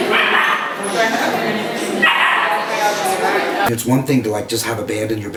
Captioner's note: dog barking